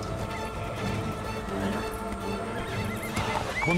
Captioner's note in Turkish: At kişneme sesi